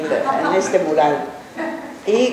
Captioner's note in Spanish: laughs